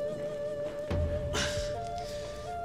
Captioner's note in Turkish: İnleme sesi